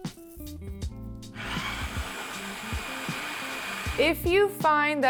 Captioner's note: food processor grinds